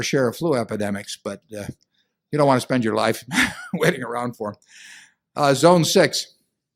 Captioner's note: laughs